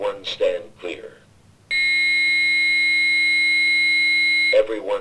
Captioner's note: beeeep